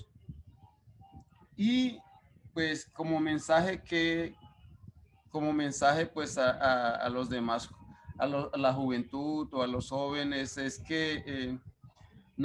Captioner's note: speaking Spanish